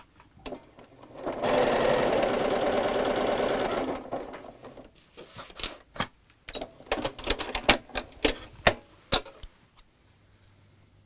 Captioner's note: sewing Machine Sounds